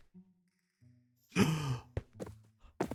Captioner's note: gasp